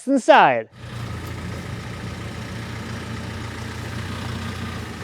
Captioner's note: engine rumbling